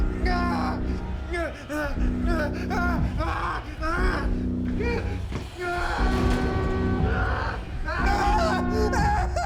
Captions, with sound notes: - No need to bring God into this it's your mistake. (screaming) (ominous music)